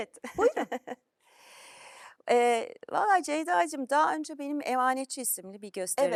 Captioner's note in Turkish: kahkaha